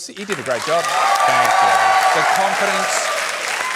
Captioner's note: cheering, applause